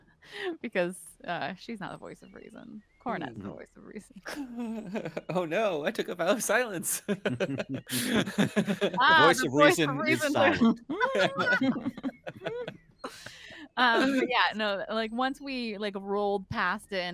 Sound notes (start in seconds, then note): 4.2 laughs; 7.3 all laugh